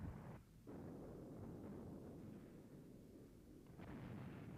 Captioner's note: bombs exploding